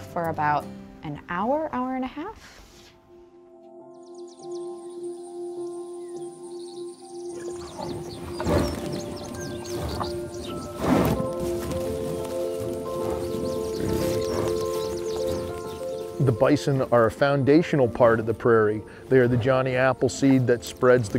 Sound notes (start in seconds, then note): 4.1 peaceful music; 12.3 bison moving, munching